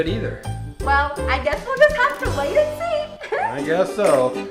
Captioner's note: laughing